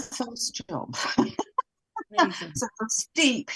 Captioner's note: laughs